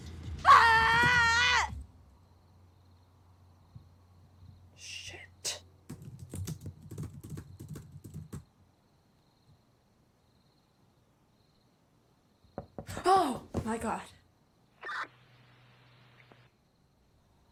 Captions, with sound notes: Aaaah! Shit. - [typing] - [crickets chirping] - [knock on the door] - Oh! My God. [police walkie-talkie beeps]